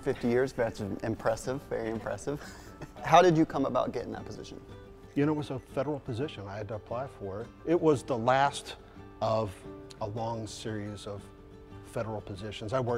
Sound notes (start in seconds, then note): 2.4 laughter